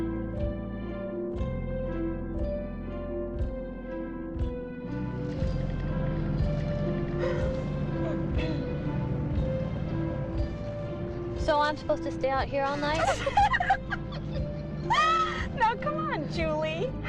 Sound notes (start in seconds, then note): 12.7 sisters laughing